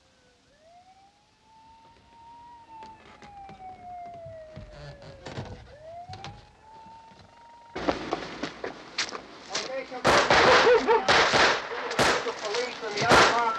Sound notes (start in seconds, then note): 0.7 siren wailing in distance